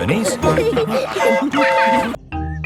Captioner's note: train whistle toots